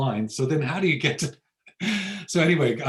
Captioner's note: laughs